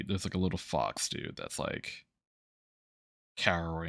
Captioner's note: none